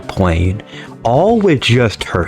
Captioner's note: inhales Oxygen